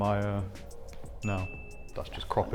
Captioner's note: bell dings